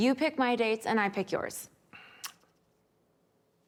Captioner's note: clicks tongue